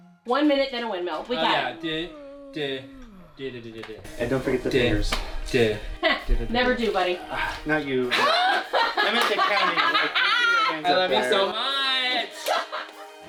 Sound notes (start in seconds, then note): 8.1 laughter